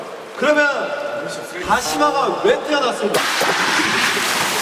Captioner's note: rubbing